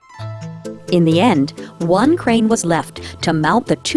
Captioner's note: voiceover